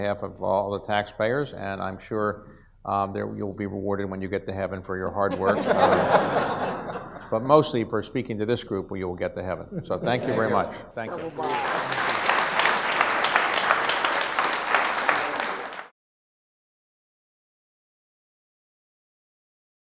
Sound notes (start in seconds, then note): 5.2 audience laughs; 11.0 audience applauds